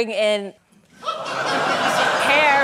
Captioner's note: laughter